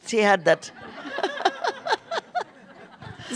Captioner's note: laughter